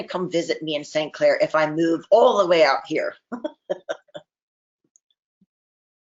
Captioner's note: chuckles